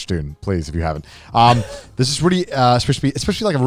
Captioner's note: chuckles